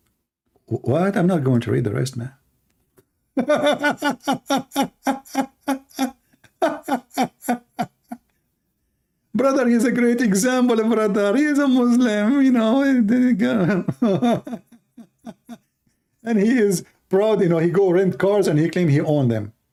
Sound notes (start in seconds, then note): 3.3 Ketawa; 13.4 Ketawa